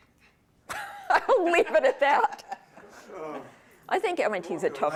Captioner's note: laughs